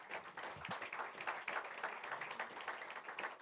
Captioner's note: audience claps